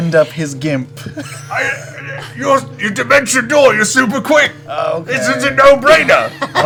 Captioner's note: stuttering